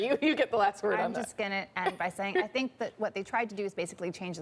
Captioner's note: laughter